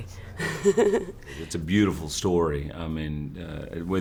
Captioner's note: laughter